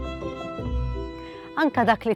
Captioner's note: in Maltese